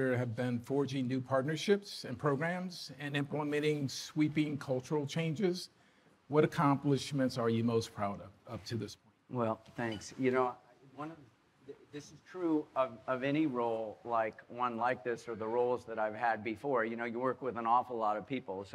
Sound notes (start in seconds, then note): none